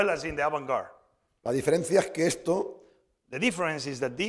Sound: speaking spanish

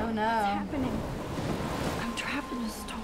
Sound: rain lashing

